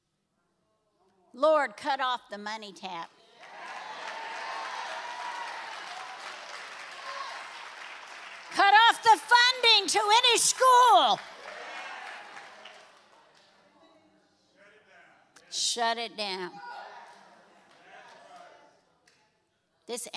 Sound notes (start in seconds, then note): 3.3 congregation cheering and applauding